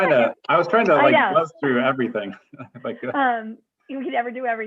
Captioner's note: laughter